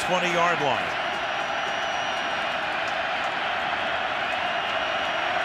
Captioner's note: crowd cheering